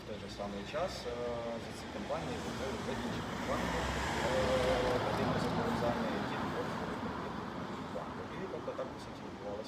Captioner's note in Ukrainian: гул машин